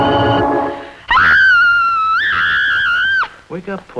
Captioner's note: screaming